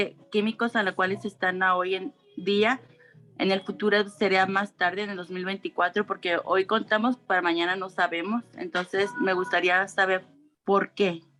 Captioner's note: speaking Spanish